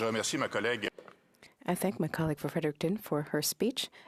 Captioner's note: speaking French